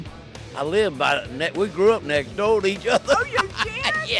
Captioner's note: laughing